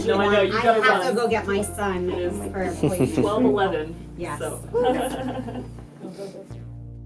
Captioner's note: laughter